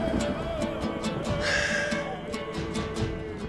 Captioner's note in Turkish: Gök gürleme efekti; Nefes sesi; Müzik - Heyecanlı